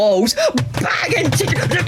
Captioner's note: banging inside walls